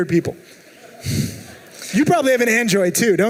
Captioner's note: laughing